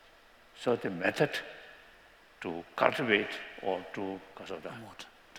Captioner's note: non-english